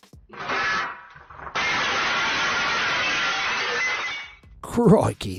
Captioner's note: glass breaking